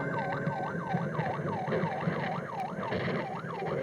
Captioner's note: police siren